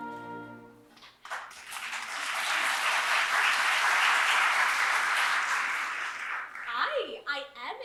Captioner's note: applause